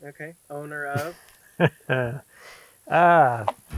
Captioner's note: laughter